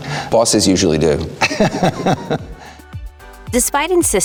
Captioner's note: laughs